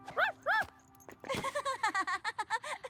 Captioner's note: giggle